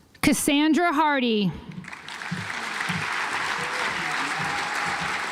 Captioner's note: audience applauds